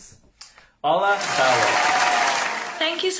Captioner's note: applause